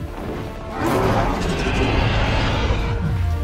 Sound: roar

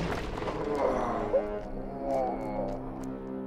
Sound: groaning

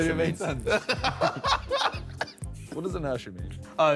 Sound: both laughing

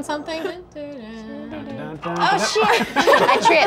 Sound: hums melody

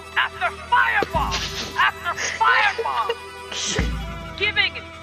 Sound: laugh

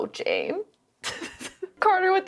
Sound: laughing

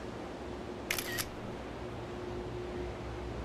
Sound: camera shutter

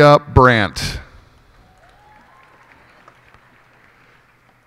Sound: cheers and applause

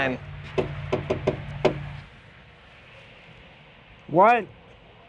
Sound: knocks on door

